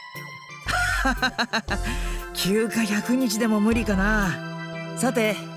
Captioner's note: laugh